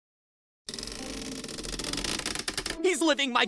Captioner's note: creak